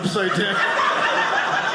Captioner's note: audience laughing